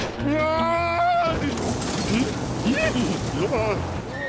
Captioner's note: chuckles